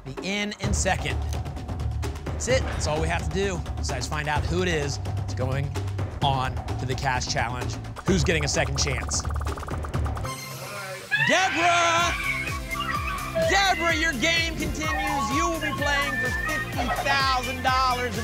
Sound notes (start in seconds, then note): 10.2 ping